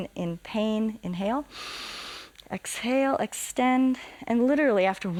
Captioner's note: inhales